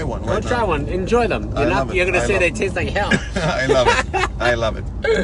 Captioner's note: laughs